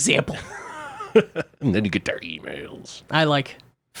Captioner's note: laughs